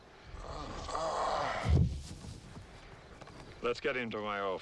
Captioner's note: Eli groans; ground thuds